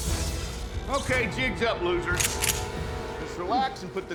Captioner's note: short-circuiting, crackling; rifle clicks